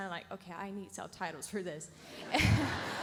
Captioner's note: audience laughs; laughs